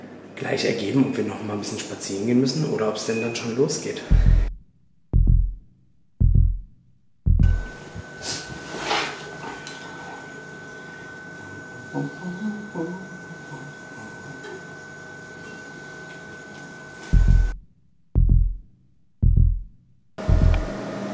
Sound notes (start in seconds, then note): 6.2 heartbeats; 17.1 heartbeats